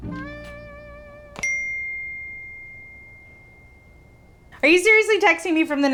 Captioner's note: phone chiming